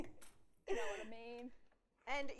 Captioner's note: laughs